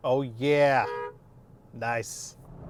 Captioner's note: car beeps